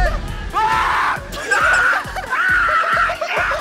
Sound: panicking

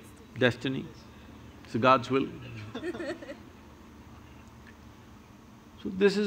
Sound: few laugh

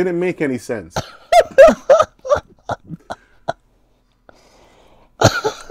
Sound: laughing

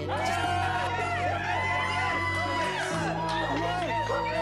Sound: group cheering

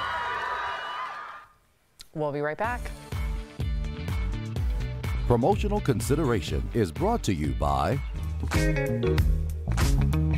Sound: screams

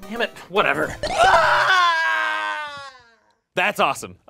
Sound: Anthony screeches

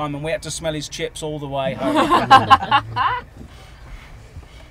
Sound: laughter

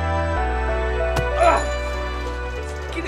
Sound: boy groans

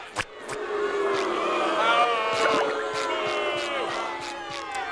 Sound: booing

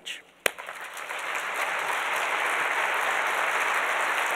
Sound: audience applauds

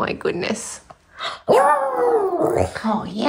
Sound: howling

